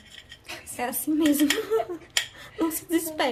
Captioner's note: laughs